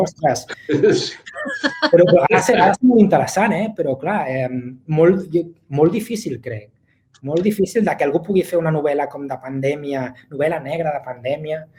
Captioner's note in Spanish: risas